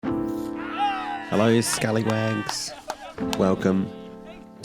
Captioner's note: cheering